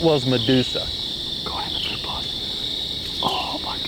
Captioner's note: whispering